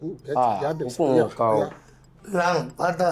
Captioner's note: whispering